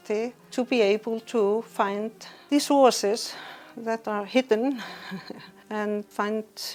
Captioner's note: chuckles